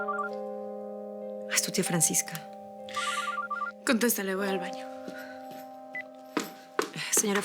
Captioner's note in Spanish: Suena el celular